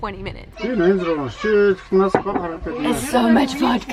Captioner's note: murmers